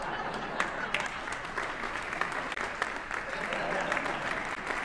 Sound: audience chuckling; audience applauding

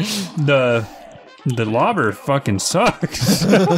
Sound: laughs

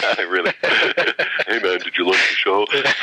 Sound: laughter

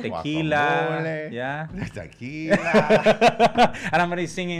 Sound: laughing

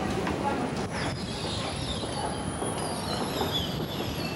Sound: escalator belt squeaks

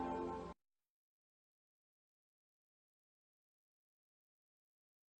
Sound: silence

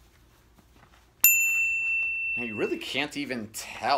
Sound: bell rings

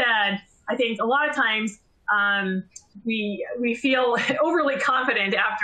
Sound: laughter

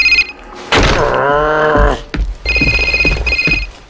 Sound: groaning

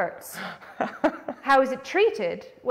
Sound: laughs

